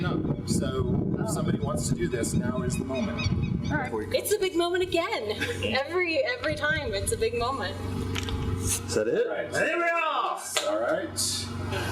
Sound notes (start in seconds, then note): 3.9 voiceover